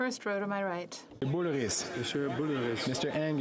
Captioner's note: speaking French